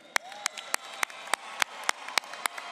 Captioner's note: applause